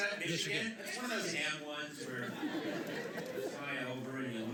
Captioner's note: laughter